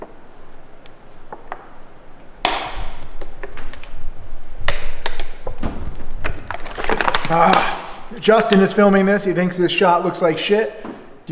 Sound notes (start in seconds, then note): 0.0 think plastic crackles; 7.3 sighs deeply